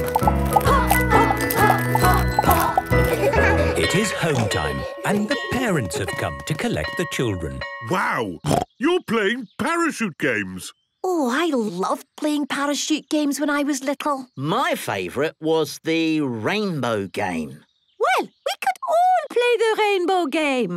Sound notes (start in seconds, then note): 3.0 laughter; 8.4 snorting